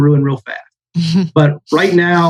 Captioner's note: laughs